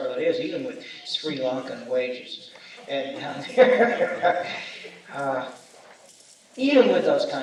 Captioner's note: laughs